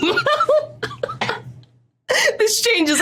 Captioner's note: both giggling profusely